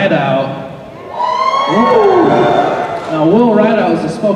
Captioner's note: cheering